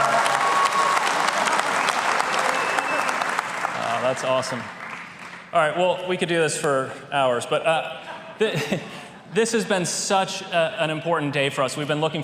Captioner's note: applause